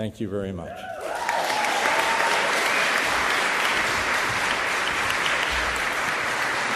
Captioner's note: applause